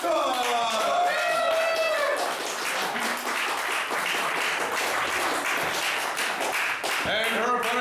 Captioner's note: cheering